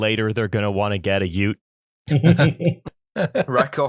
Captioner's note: laughter